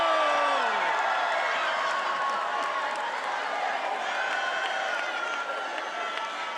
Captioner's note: attendees applauding and cheering